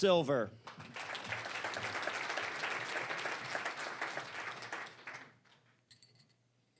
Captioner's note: applause